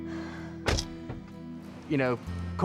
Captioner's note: car door closes